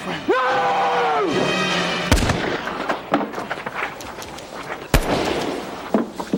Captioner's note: yells; gun shots